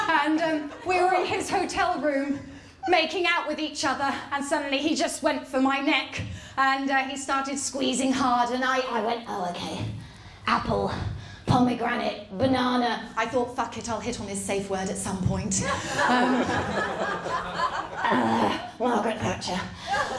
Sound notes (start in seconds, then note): 9.3 strangled voice; 15.6 laughter